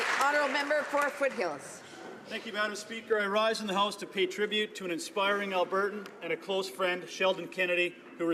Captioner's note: applause